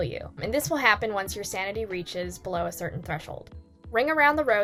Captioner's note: none